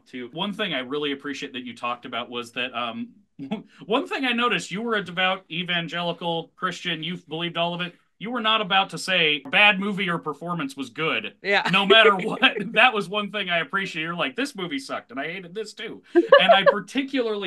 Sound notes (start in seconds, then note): 11.6 laughs